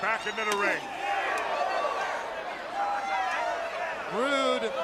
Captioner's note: crowd chatter